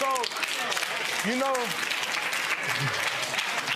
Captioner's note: audience applause